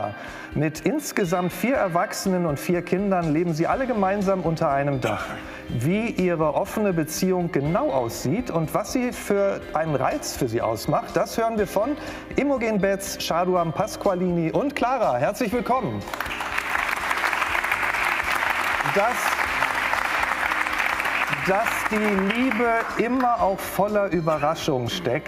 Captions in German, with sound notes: Mit insgesamt vier Erwachsenen und vier Kindern leben sie alle gemeinsam unter einem Dach. Wie ihre offene Beziehung genau aussieht und was sie für einen Reiz für sie ausmacht, das hören wir von Imogen Betz, Jaduam Pasqualini und Clara. Herzlich willkommen. (Applaus) Das ... Dass die Liebe immer auch voller Überraschungen steckt,